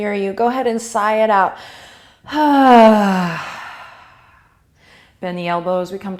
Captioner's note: loud exhale